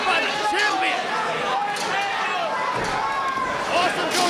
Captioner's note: crowd vocalizing